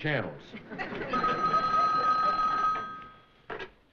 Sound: phone ringing

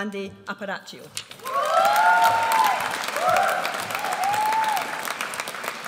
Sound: audience applauds

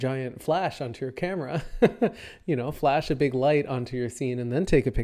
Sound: chuckles

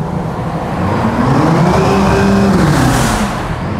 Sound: engine revving

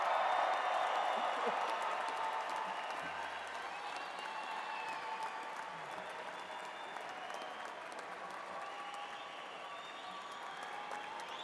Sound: crowd cheering and clapping

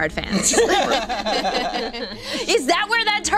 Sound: laughing

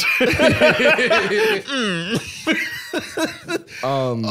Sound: both laughing; grumpily

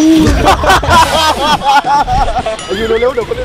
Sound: laughs

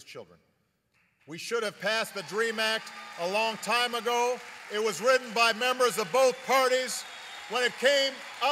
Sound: applause

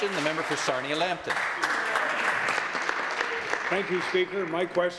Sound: some Applause

